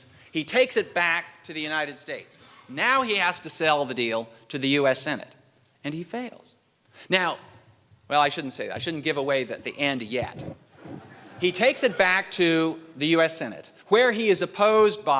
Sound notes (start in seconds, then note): 10.7 laughter